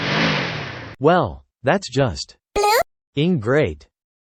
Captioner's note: beep